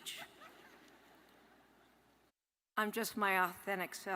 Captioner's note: audience laughs